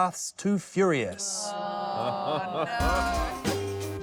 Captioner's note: all groan